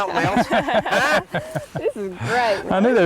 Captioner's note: laugherter; laughter